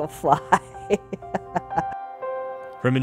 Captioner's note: laughs